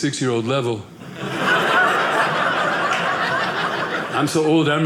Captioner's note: audience laughing